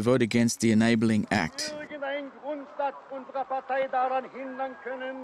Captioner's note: German spoken audio